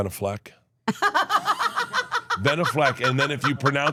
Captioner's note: Steph laughing